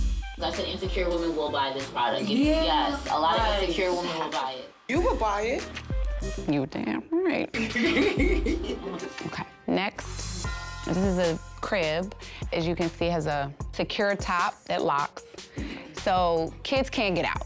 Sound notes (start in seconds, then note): 7.5 laughing